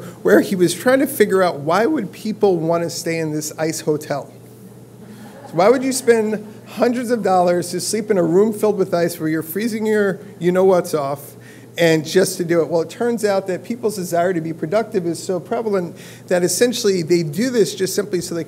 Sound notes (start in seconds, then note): 5.0 laugh